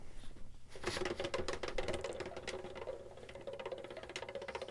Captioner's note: wheel clicking